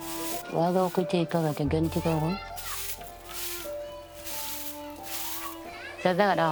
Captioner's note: speaking in foreign language